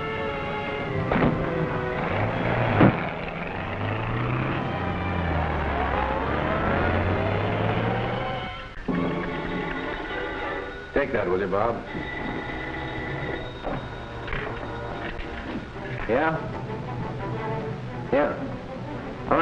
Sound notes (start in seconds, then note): 1.0 car starts up; 9.5 phone ringing